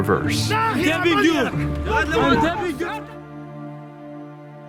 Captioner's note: shouting in Hebrew